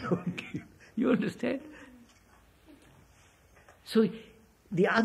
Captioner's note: laughs